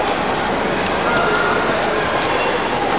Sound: water, kids shout

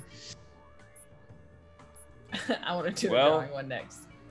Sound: laugh

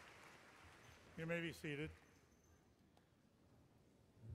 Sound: voiceover

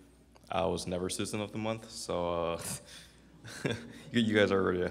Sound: laughs

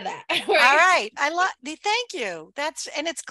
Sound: laughs

